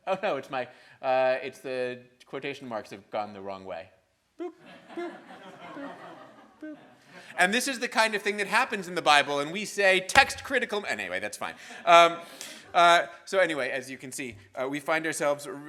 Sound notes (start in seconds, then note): 4.6 audience laughing